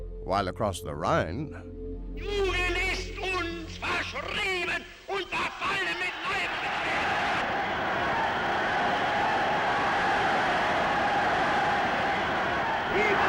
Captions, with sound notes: While across the Rhine, (talking in foreign language) (cheering)